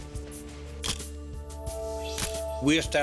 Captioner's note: camera shuttle click